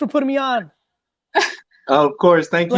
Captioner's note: laughs